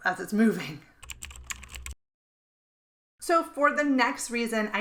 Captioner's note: keystrokes clacking